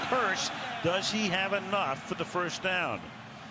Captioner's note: crowd boos